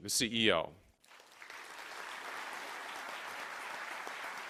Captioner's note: applause